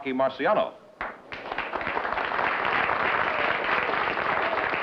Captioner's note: applause